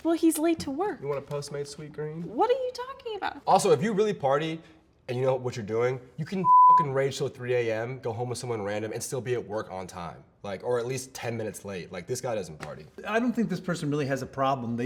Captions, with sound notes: - Well, he's late to work! - "You want a Postmates sweetgreen?" - What are you talking about? - Also, if you really party, and you know what you're doing, you can (beep) rage till 3:00 a.m., go home with someone random, and still be at work on time. Like, or at least 10 minutes late. This guy doesn't party. - I don't think this person really has a problem.